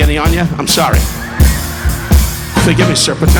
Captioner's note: audience laughing